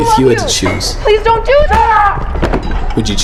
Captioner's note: sound of impact